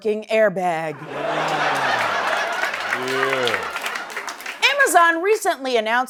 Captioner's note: laughter